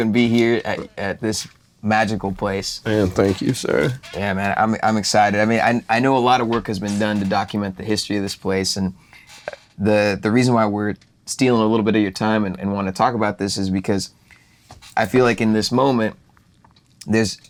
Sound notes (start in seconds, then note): 3.4 boo